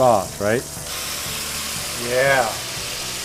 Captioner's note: sizzling